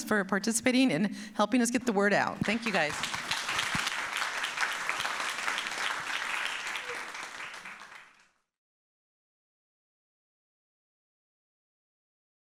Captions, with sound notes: for participating in helping us get the word out. Thank you, guys. (audience applauds)